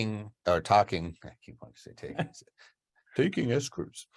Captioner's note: laughs